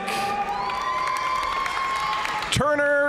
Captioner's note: audience cheering and applauding